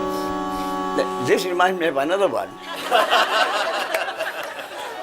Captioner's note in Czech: smích